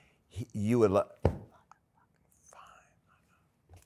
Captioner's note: whispering